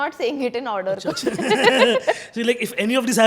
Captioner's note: laughing